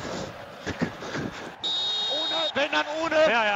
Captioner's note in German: Pfiff